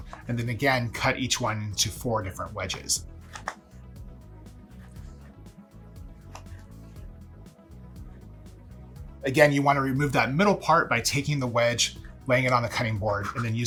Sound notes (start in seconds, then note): 3.3 knife chopping